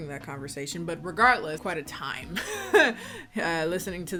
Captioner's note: laughs